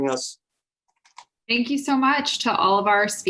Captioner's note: clicking